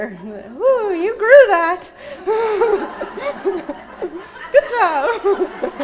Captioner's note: laughing